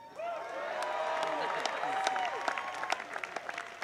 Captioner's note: applause